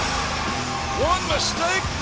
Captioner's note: bell ringing